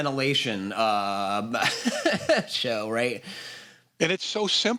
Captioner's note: chuckles